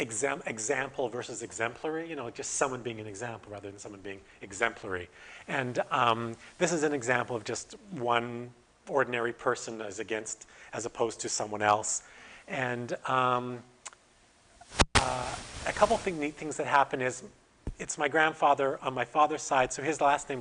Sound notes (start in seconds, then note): none